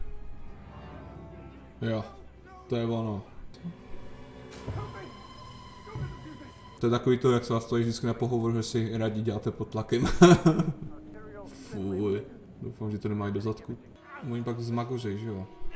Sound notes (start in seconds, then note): 9.9 laughs